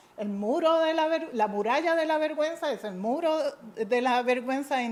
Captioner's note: speaking in a foreign language